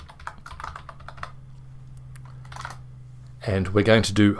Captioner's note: keyboard typing